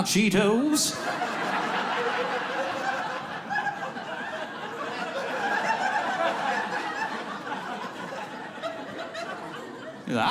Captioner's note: audience laughing